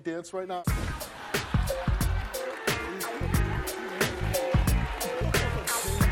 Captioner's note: funky music; audience laughs